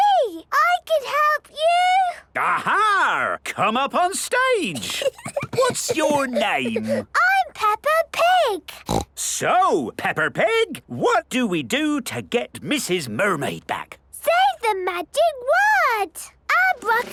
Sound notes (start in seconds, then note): 4.7 Peppa giggles; 8.8 snorts